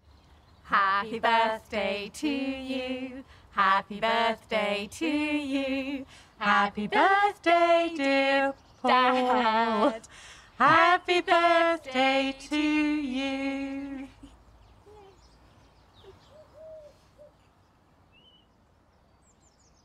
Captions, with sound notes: Happy birthday to you, Happy birthday to you, Happy birthday dear Dad (stuttering, laughing) Happy birthday to you. (birds singing)